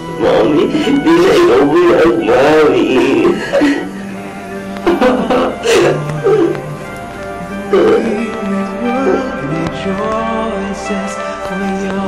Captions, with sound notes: Mommy, you are not blind anymore. Mommy... [crying]